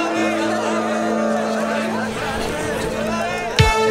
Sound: audience booing

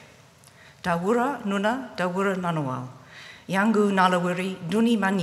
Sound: speaking Ngunnawal language

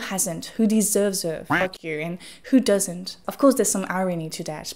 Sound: duck quaking

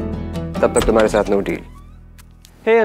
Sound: door opens

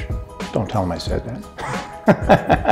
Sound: laughs

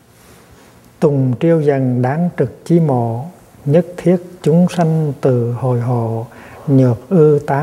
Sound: Vietnamese

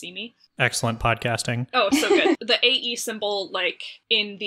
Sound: laughs

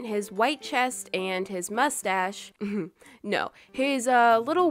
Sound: laughs

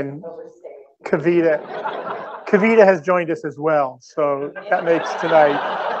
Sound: laughs

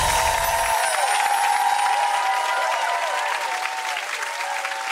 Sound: audience cheering

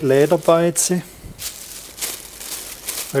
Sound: rustling

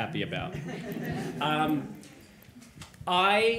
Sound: everyone chuckles

